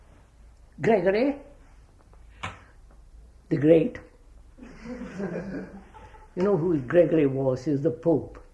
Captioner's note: laughter